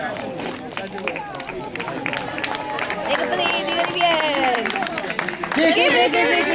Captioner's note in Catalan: Aplaudiments